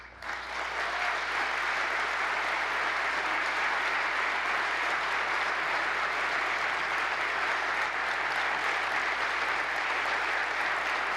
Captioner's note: applause